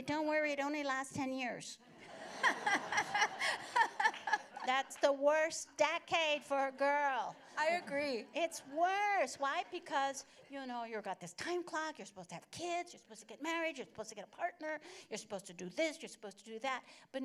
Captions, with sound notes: Don't worry. It only lasts 10 years. [laughter] -That's the worst decade for a girl. -I agree. -It's worse. Why? Because you've got this time clock, you're supposed to have kids, you're supposed to get married, you're supposed to get a partner, you're supposed to do this, you're supposed to do that,